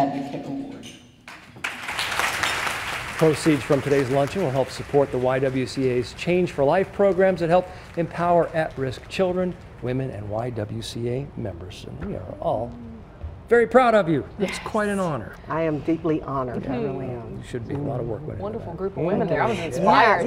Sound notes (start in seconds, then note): 5.1 applause